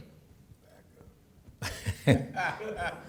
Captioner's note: chuckling